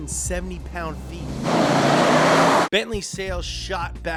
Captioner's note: engine revving